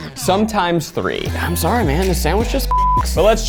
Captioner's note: beeps